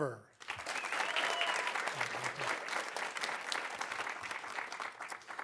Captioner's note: audience applauding